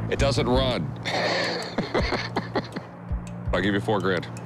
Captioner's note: laughs